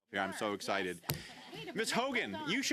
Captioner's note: speaking French